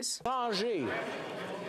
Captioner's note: speaking French